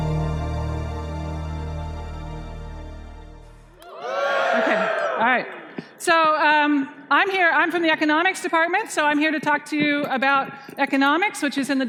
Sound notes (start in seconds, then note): 3.8 cheering